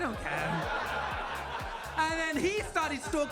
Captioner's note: audience laughs